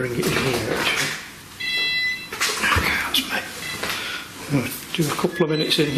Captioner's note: beeping